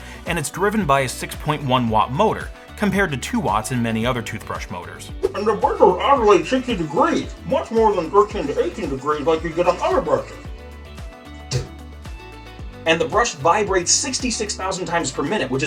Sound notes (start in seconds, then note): 11.3 spits